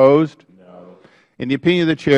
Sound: chorus of noes

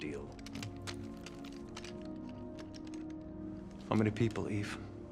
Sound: guns cocking

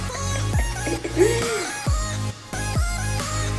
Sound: dub step music; laughing

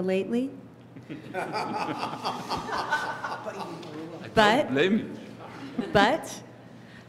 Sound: laughter

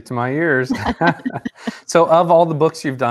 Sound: laughing

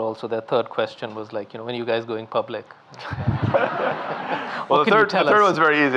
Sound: audience laughing

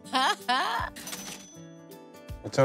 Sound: cha-ching!

